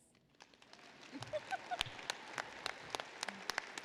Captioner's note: applause